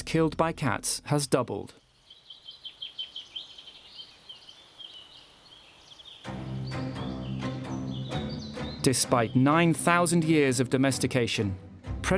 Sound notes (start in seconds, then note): 2.8 birds chirping; 6.2 dramatic music